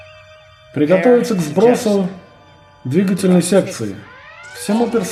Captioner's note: red alert klaxon